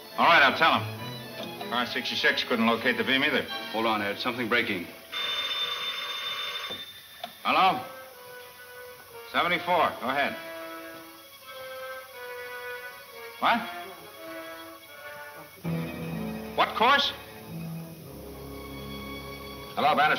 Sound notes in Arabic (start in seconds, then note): 5.0 رنين الهاتف